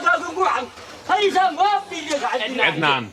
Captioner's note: shouting continues